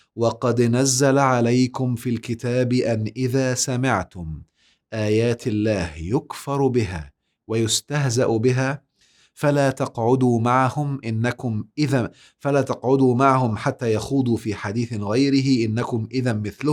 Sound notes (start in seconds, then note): 7.2 recited